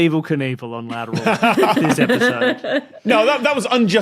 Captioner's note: others laughing